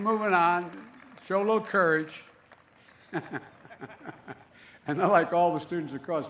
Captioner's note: laughs